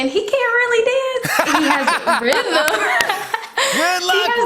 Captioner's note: laughter